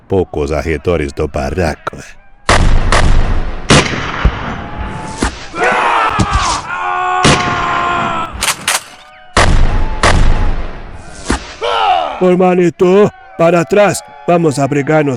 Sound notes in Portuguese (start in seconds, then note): 11.0 grito; 12.4 gemido